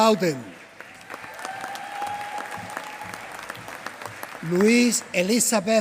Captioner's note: applause